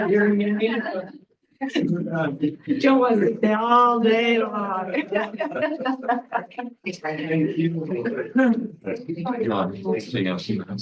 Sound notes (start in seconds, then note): 4.4 group laughing; 6.8 overlapping chatter